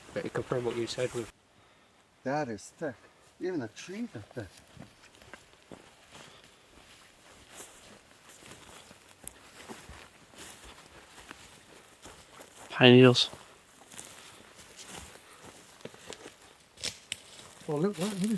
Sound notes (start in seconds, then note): 6.4 rustles; 16.7 rustles